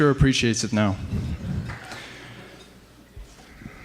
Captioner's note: faint laughter